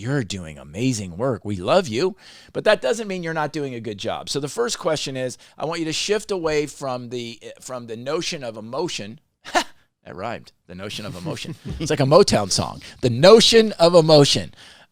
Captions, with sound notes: "You're doing amazing work. We love you." That doesn't mean you're not a good job. The first question is I want you to shift away from the notion of emotion, [chuckle] I rhymed, the notion of emotion. It's like a MoTown song. The notion of emotion.